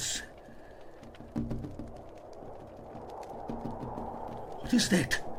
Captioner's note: tapping at the glass